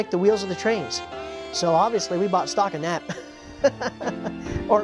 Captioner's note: laughs